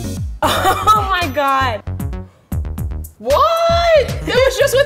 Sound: bright electronic music; laughs

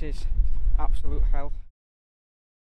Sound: heart beating noise

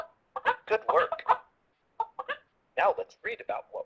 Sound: voiceover

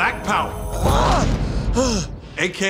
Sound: panting

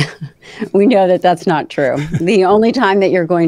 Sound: chuckles

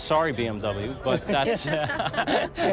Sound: laughs

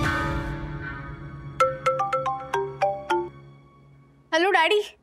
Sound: phone rings

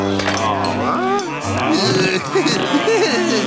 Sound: groaning

